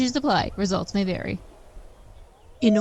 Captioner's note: loon call surrounded by forest sounds fading out